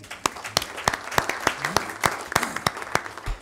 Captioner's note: applause